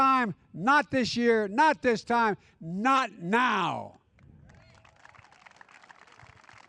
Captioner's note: applause